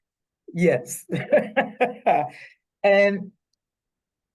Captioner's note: chuckles